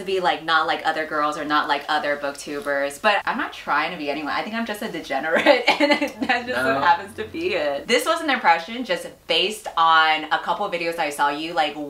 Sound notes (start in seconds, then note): 5.5 laughs